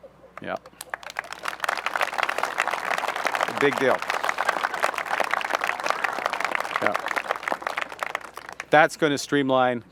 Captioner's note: applause